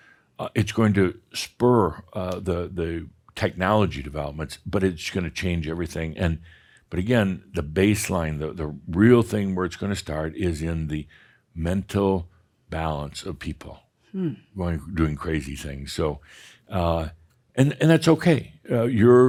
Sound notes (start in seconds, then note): none